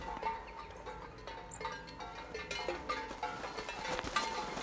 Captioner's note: clanging